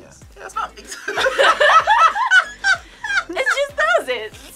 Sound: both laugh

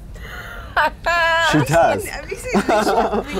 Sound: laughs

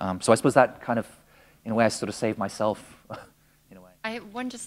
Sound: chuckle

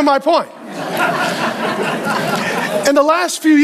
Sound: congregation laughing

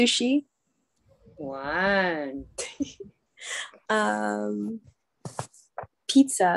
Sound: chuckling

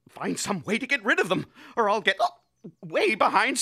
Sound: hiccupping

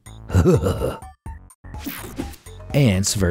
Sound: narrator gags

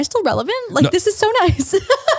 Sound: laughs

